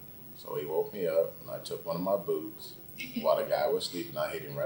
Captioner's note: laughs